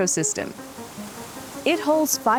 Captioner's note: water streaming